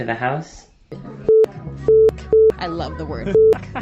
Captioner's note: beep